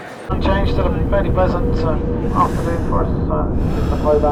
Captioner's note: radio chattering; breathing deeply